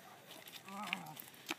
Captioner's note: groans